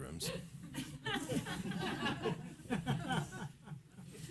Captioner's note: laughing